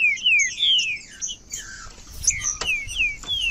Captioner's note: trinca ferro cantando